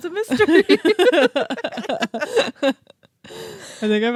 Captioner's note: both laughing